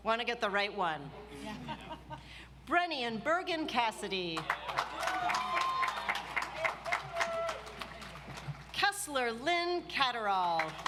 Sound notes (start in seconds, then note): 4.4 audience applauds